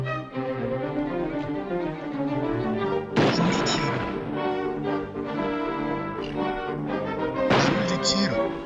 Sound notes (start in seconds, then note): 3.1 gunshot; 7.4 gunshot